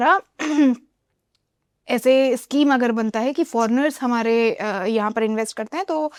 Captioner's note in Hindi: गला साफ़ करने की आवाज़